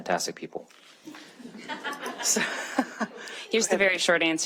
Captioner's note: audience laughing